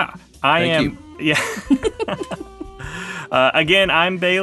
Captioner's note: all laughing; mid-tempo jazz music playing